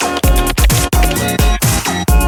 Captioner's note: keystrokes tapping; upbeat music